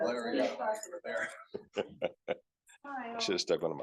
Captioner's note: group laughing